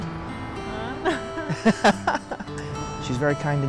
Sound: laughs

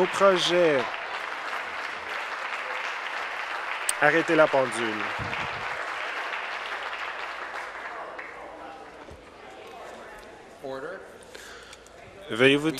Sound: applause

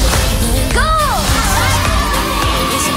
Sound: screaming

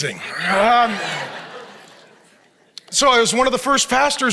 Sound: audience laughs

